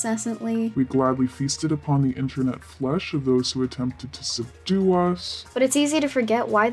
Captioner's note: deep voice